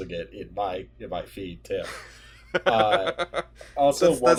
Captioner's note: laughter; restroom sounds